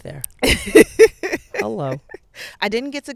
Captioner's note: laughing